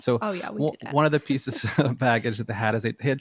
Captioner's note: both laughing